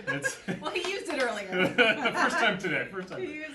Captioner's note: both laugh